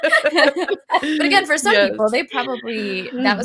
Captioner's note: all laughing